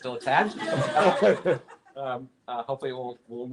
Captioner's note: laughter